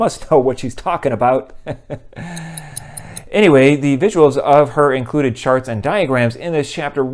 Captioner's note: ticking